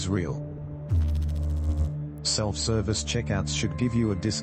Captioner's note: electrical noise